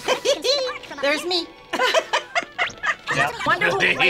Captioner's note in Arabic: يضحك